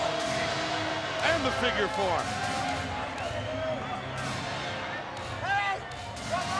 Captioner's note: crowd clamoring